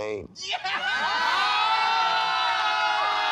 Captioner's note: shouting